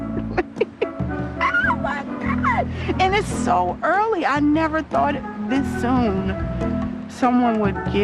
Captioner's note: laughs